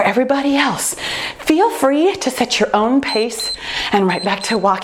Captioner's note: timer beeps